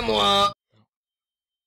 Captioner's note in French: chuchoté